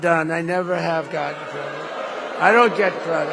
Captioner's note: applause